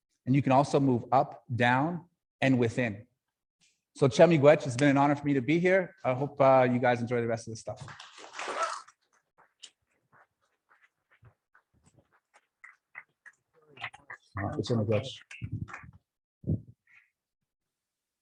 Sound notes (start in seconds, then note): 4.1 speaking foreign language; 7.9 adience applauding; 14.5 faintly speaking